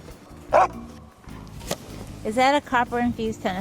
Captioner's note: dog barks